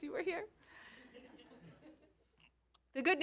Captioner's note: laughter